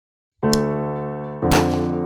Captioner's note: revolver cylinder click; gunshot